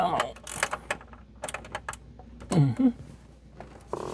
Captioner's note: chuckles